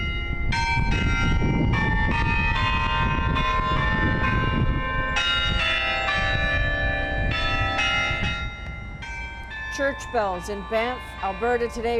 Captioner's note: bells tolling